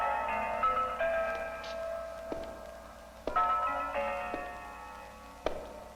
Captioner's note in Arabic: صوت خطوات قوية